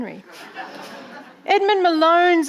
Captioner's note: audience laughing